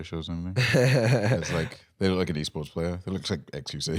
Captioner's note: laughs